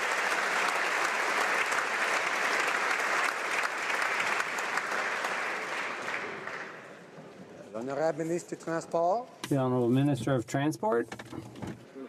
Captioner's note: applause